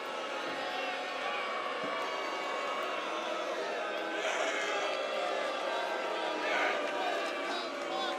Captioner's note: crowd cheering